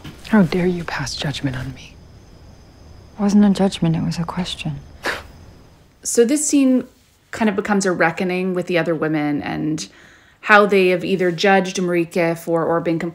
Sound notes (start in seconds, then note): 4.8 scoffs